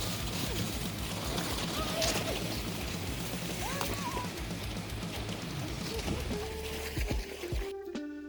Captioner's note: panicked screaming starts and metal music intensifies